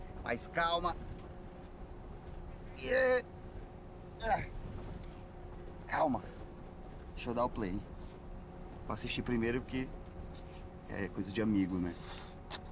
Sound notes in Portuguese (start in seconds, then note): 2.7 grunhe; 4.0 grunhe com esforço